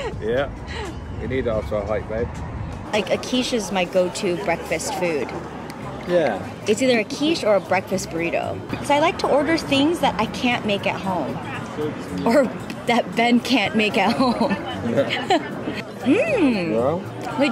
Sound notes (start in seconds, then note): 0.0 laughs; 14.0 laughs